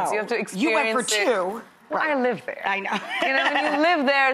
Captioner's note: laughs